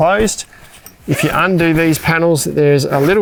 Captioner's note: fabric rustling; zipper squealing